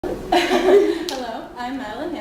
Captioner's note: laughter